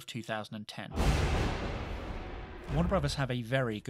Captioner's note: thunder crackles